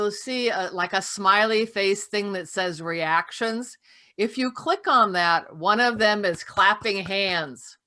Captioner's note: clapping